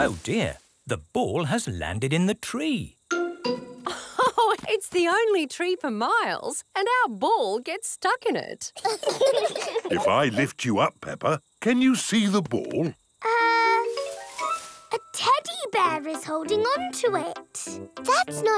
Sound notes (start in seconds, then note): 3.9 laughs; 8.7 children laugh